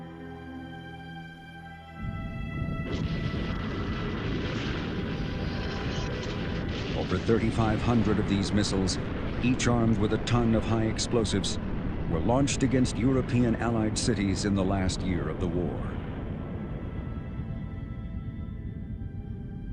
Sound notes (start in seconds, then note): 0.3 dark music; 2.3 rocket whooshing; 15.9 somber music